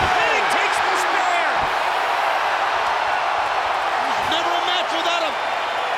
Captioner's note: applause